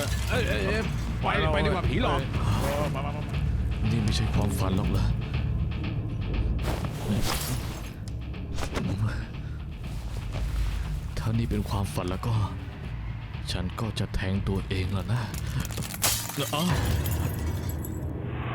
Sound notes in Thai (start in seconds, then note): 15.6 เสียงกระจกแตก